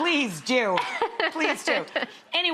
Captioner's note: Hale laughing